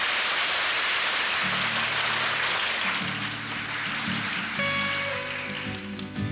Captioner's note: applause